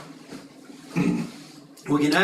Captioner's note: cough